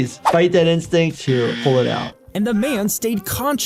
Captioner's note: buzzer buzzing